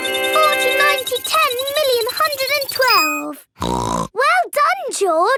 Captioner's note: beeping; snorts